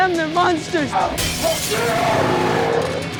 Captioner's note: growls; glass shatters